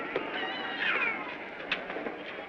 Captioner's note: child cries